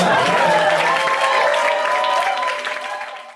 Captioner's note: cheers, applause